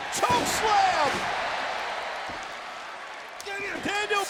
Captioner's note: audience cheers